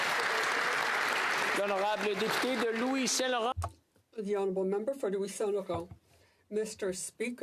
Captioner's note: applause